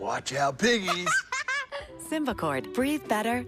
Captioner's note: child giggles